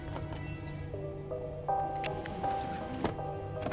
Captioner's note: keys clink